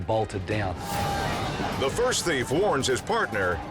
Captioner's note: people chanting